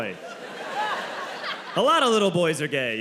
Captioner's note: audience laughing